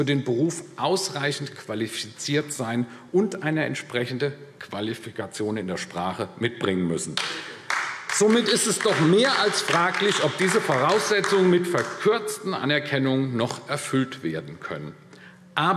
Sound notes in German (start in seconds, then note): 7.1 Beifall AfD